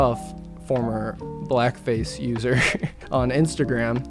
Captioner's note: laughing